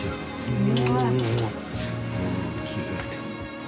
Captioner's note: delivering smacking kisses